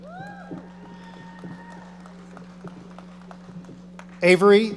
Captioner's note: audience applauding